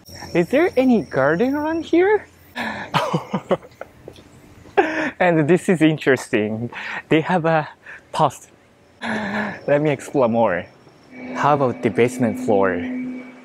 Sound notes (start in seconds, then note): 2.6 chuckles